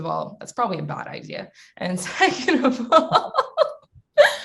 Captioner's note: laughs